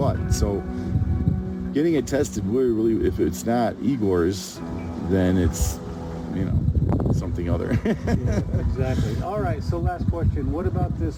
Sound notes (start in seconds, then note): 7.6 laughs